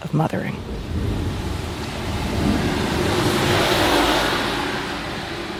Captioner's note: car engine revving